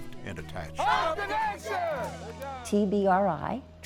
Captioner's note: group Cheers